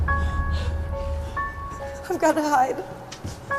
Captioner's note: Angelica panting